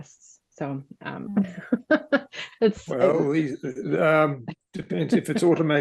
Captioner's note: laughs